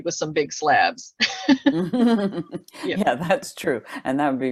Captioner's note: laughs